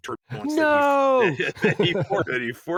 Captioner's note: both laugh